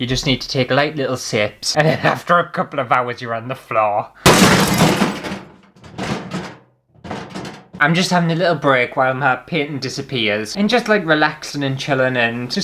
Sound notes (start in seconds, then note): 4.2 crash!!